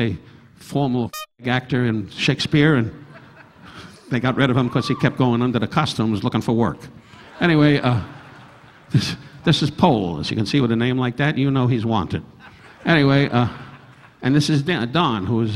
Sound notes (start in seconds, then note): 7.0 audience laughing; 12.4 audience laughing